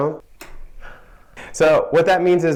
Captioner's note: gasp